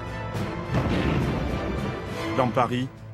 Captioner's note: shell fire